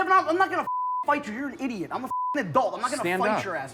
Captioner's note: beep